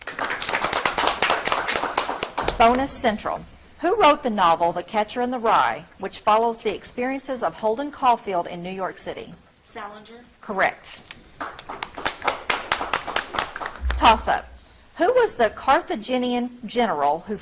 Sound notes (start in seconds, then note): 0.0 audience clapping; 11.3 audience clapping